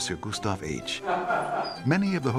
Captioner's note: laughter